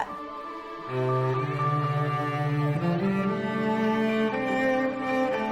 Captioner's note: children talking; calm music